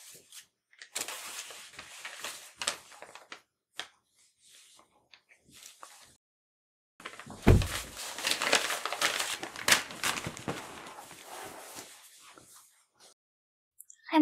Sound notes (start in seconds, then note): 7.4 door closes